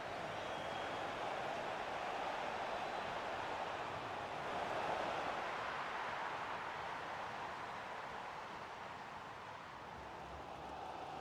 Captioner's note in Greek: χειροκρότημα